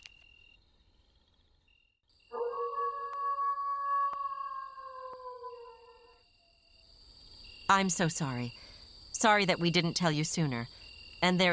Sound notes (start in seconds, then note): 2.3 howl